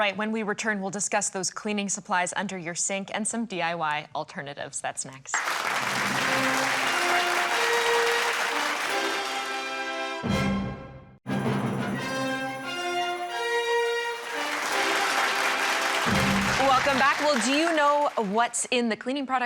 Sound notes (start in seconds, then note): 5.3 crowd clapping; 10.4 orchestrated music; 15.1 orchestrated music